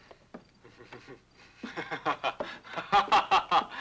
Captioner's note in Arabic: بوب يضحك